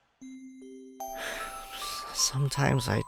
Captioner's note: sighs